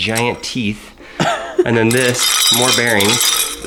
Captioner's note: laughs